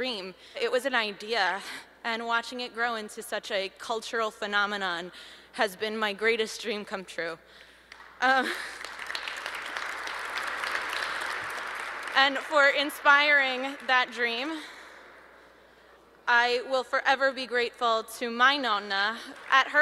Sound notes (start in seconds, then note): 8.3 applause